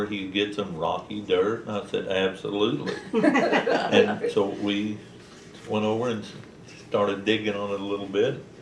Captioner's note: laughter